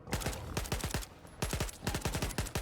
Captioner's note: gunfire